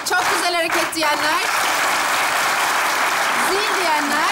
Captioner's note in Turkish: alkış sesleri